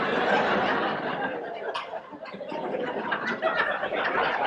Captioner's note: audience laughs